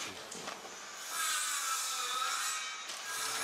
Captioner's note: saw screech